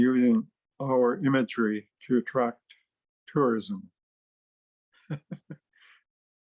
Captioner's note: chuckling